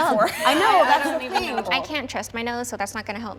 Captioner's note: group chattering